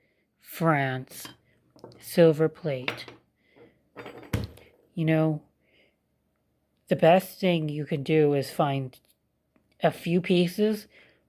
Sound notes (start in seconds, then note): 4.1 thud